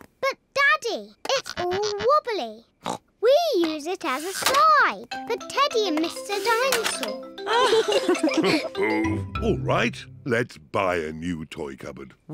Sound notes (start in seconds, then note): 2.5 snorts; 7.4 both laugh